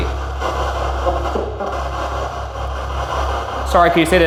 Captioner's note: static buzzing